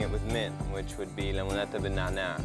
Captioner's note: foreign language